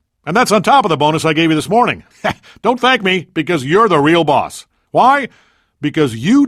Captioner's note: laughing